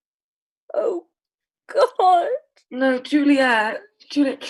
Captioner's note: crying